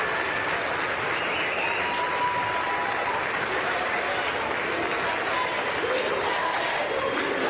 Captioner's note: applause